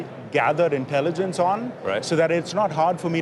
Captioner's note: none